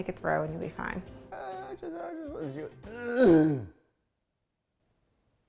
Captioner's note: grunting